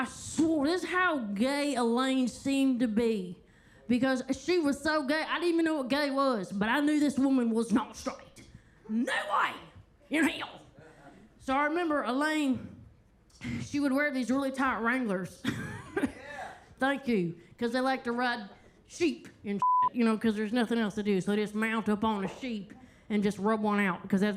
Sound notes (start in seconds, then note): 15.5 Kentucky Lightning laughs; 19.6 beep